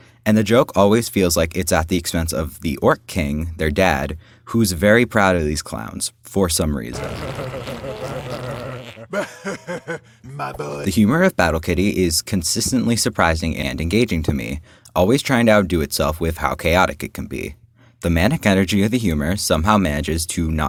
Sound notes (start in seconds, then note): 6.9 farting; 8.9 laughs affectionately